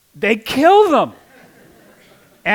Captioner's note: laughter